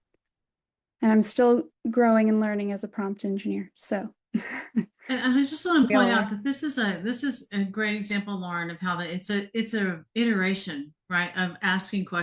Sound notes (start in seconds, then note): 4.4 chuckles